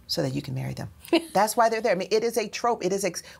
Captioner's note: laughs